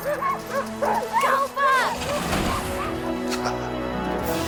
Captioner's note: Buck barking; dogs barking; Bill chuckles